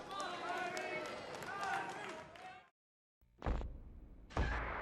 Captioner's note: crowd chatter